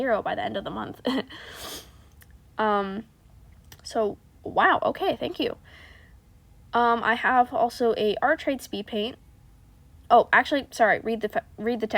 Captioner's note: sniffff